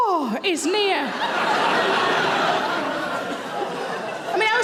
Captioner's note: audience laughing